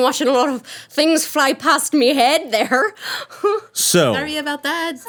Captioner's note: laughing